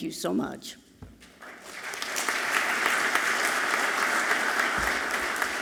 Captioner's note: audience clapping loudly